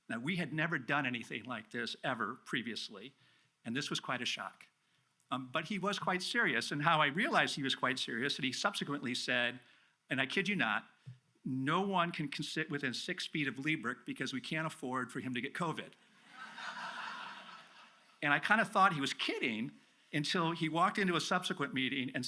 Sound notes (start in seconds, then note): 16.3 audience laughs